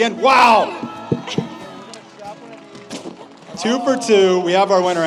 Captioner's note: audience cheers